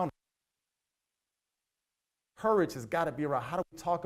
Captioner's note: audio cuts out